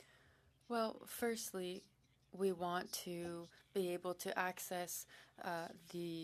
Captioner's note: speaking French